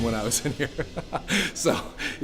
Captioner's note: laughs